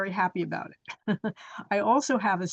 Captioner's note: chuckles